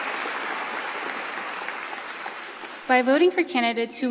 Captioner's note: cheering